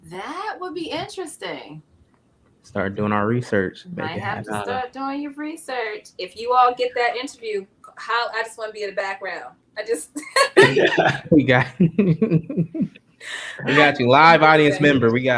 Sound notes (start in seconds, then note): 10.0 laughing